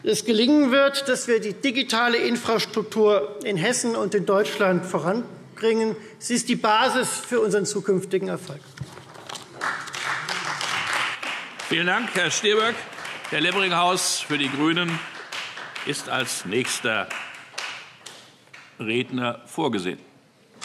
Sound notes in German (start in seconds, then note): 9.4 Beifall Freie Demokraten